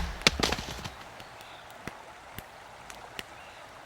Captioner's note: birds singing fire crackling